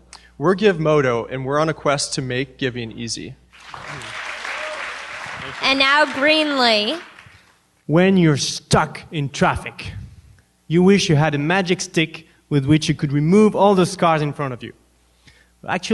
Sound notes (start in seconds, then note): 3.5 applause